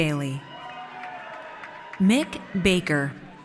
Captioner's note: audience cheers